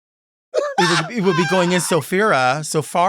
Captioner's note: Sapphira laughs